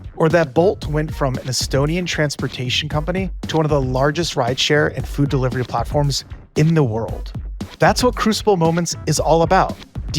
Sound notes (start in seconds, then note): none